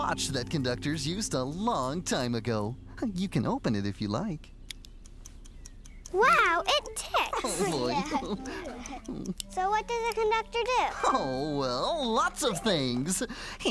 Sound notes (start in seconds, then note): 5.5 watch Ticking; 7.4 all Chuckle